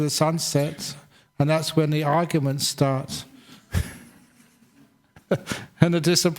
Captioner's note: chuckles